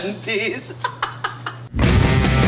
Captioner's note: sings theme song; laughs; intro music